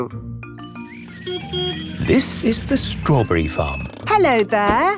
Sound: beeps

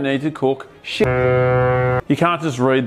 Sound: ship horn

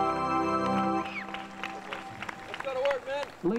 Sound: audience cheers

